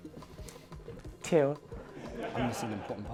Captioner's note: laughter